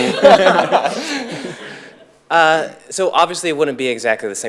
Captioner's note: audience laughs